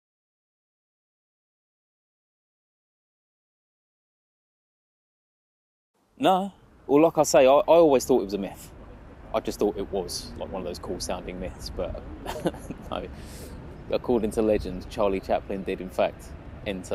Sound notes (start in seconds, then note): 12.2 laughs